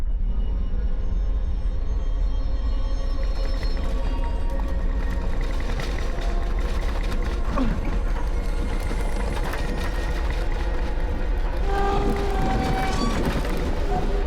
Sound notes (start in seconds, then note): 0.2 suspenseful music; 3.4 rattling and clattering